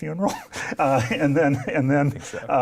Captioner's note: chuckling